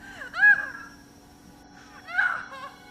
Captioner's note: woman sobs